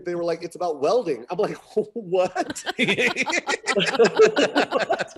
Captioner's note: laughing